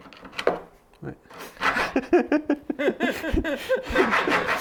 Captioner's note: laughing